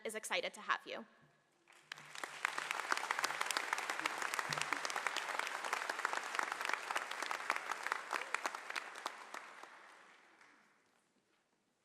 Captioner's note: applause